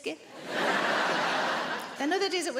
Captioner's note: audience laughing